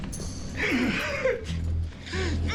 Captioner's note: iggy sobbing